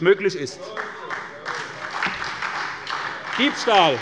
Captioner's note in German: Beifall bei der SPD